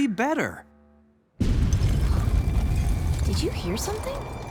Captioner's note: deep thud